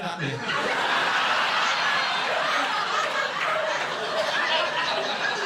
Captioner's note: audience laughing